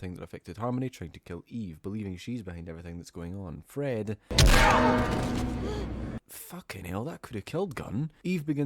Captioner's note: hit